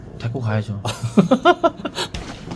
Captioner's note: haha